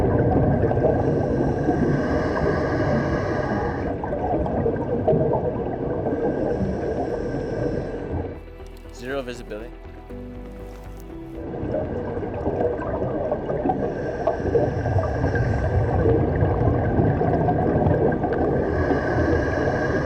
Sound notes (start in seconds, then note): 1.0 breathing; 11.7 breathing